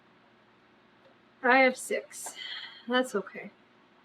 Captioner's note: sighs